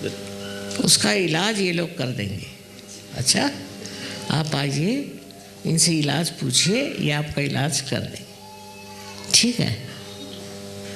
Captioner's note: hindi